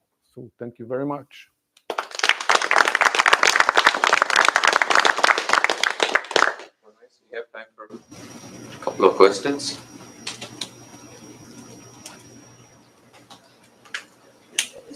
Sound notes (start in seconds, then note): 1.8 applause